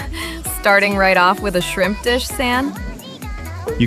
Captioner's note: laughs